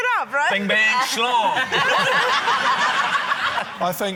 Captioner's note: laughter